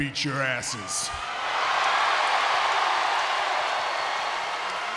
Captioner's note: audience cheers